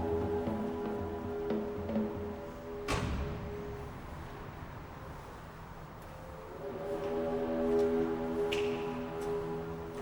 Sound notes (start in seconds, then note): 2.7 door thuds